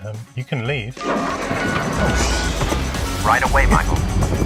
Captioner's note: engine Revs